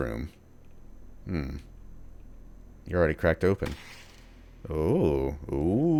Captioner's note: door creaks open